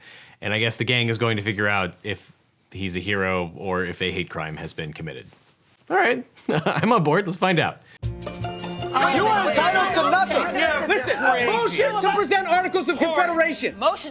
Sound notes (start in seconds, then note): 8.0 uplifting music; 8.7 arguing